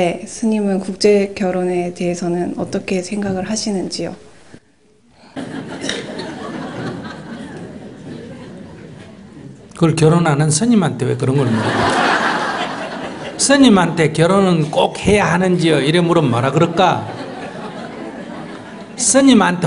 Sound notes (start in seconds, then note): 5.2 audience Laughter